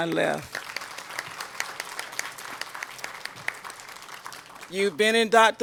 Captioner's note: applause